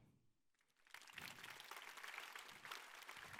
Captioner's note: applause